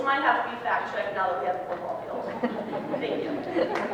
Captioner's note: audience laughs; audience applause